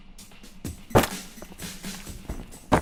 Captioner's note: sound of gun hitting head